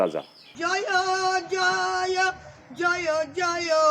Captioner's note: chanting